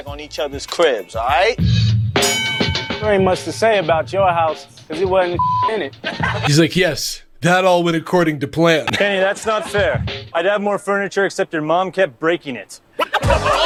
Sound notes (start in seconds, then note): 5.3 beep